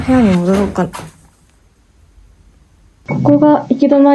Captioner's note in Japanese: 大きな音